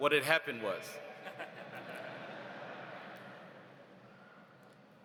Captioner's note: audience laughs